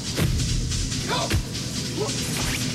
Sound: yells

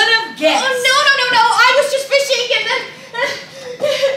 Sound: sobs

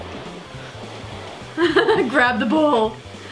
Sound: giggles

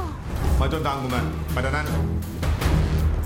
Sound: Malay Language

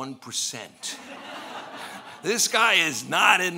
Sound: laughing

